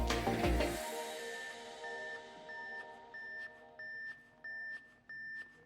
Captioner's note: machine beeping